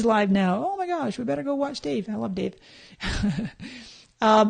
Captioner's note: laughs